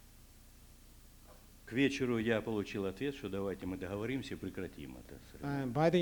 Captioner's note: non-english speech